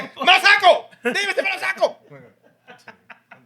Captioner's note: speaking Spanish